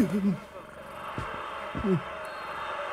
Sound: cat purring

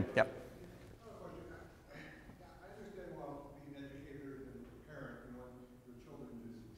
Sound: speaks quietly without mic

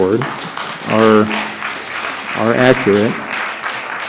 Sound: applause

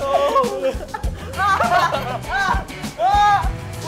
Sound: they can't stop laughing

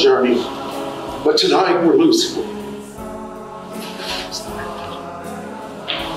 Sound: sobs

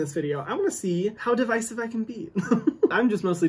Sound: chuckles

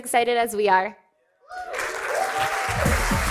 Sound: cheering and applause

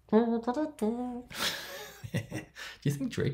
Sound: laughs

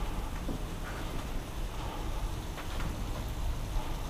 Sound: rain splashing

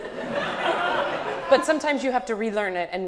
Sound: audience laughs

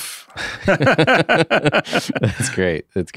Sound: both laugh

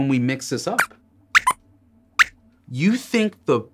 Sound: squeaks squeaks

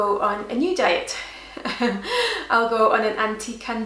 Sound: chuckles

